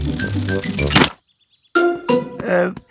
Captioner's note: none